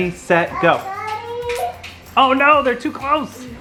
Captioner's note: magnets click together